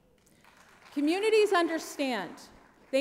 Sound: applause

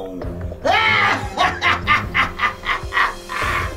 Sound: laughs wickedly

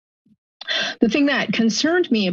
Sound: inhales

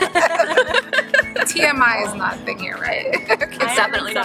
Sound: laughing

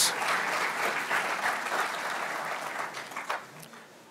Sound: speaking over applause; applause continues

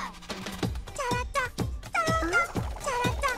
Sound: humming

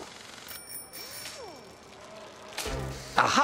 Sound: bicycle bell

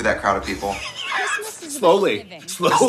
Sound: laughing

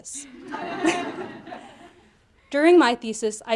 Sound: audience laughing

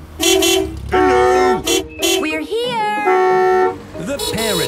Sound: beeping

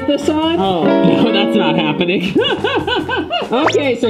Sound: laughs

